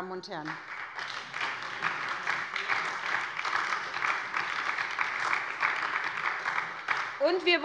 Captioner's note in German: Beifall bei der SPD